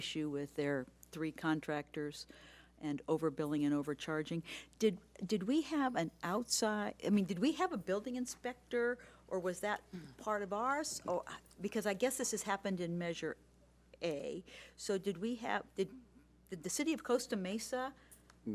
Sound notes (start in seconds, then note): none